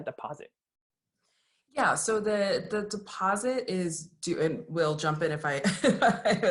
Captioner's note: laugh